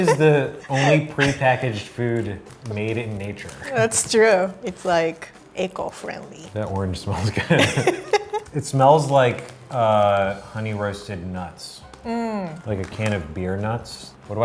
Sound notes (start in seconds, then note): 7.3 laughing